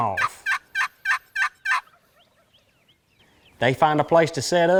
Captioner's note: turkey calling